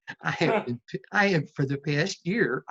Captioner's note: laughs